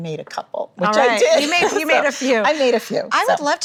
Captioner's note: laughing